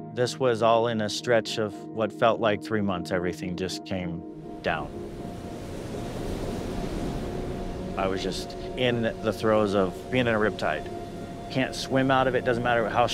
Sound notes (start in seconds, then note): 6.1 waves swishing